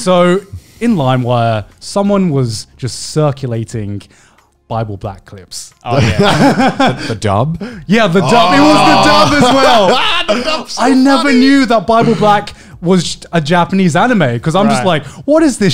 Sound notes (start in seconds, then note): 5.5 laughing softly; 8.2 laughing loudly